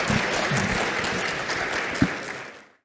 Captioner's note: applause